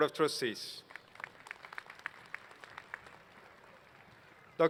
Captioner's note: applause